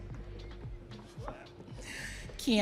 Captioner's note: audience cheering